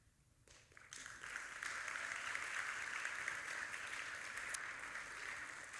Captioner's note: audience applauding